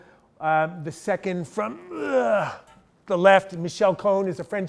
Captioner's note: gagging